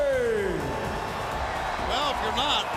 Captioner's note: crowd cheers